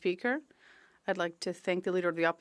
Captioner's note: speaking French